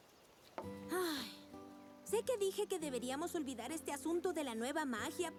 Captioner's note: sigh